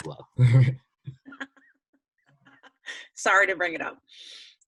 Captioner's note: laughing